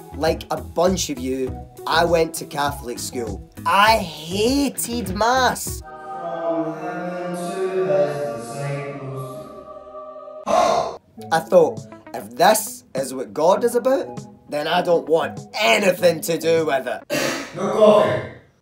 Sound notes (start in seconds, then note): 17.1 coughs